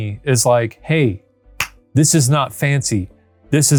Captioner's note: palms clapping